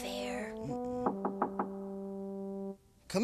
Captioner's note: knocking on door